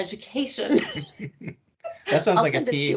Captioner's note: laughing